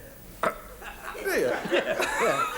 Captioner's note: chuckles